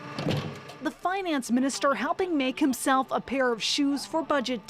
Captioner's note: speaking French